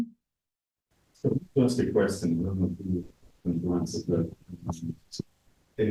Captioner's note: audio distorts